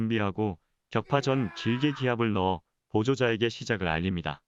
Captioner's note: yell